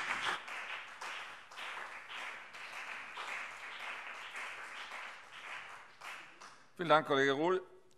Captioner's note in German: Beifall CDU und BÜNDNIS 90/DIE GRÜNEN